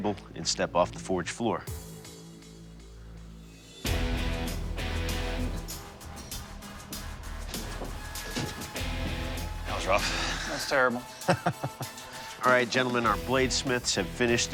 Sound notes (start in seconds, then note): 11.1 laughter